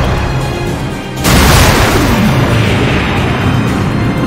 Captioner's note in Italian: esplosione